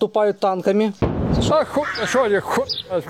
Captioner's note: sound of explosion